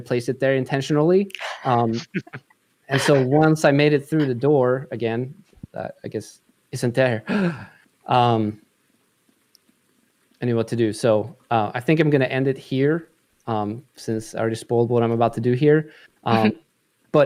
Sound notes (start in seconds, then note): 7.2 gasp